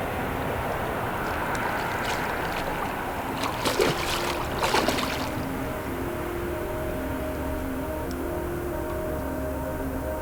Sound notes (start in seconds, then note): 1.0 fish splashing; 7.7 soft music